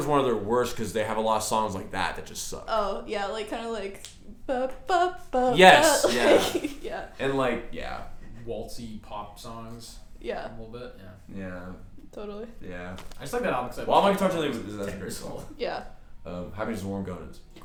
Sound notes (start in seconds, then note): 4.1 imitates the tune of “ ”